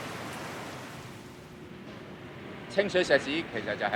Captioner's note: construction sounds; Cantonese